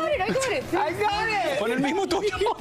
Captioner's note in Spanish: risas